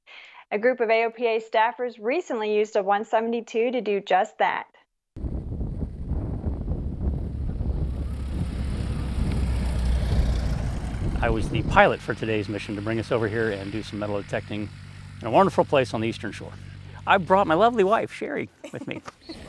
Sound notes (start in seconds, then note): 5.8 airplane fan humming